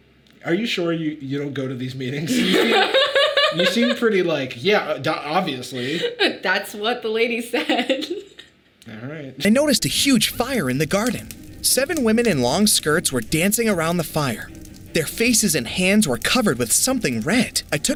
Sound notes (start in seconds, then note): 2.2 Sadie laughing; 8.5 laughs